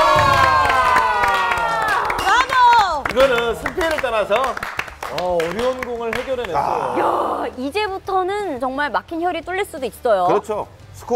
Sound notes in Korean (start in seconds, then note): 0.1 박수 짝짝